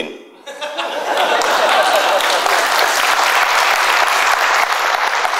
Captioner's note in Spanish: aplausos